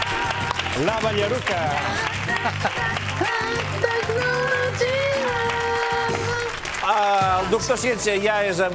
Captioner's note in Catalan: aplaudiments